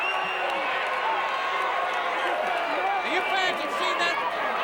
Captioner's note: audience cheering